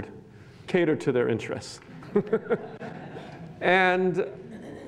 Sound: laughs

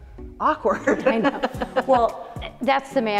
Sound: laughs

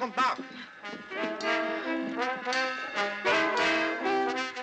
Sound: women talking

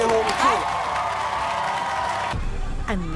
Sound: applause

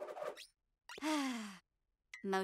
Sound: sighing

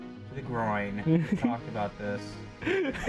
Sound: laughs

